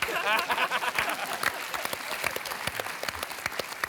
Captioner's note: applause